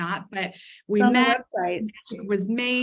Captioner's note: audio warbles